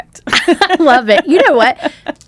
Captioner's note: laughs